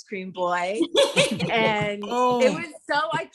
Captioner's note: all laughing